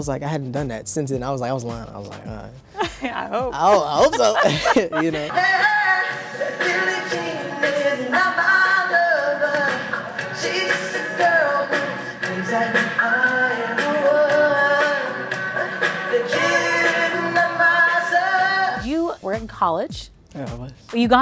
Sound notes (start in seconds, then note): 4.4 laughing